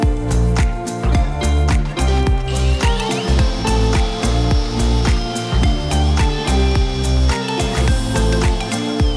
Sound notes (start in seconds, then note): 1.8 drilling